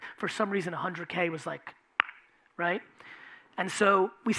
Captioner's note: clicking tongue